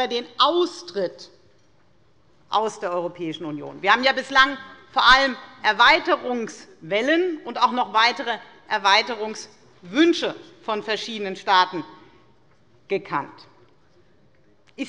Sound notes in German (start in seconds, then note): none